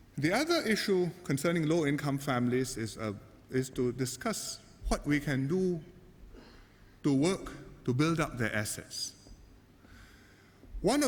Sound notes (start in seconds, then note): none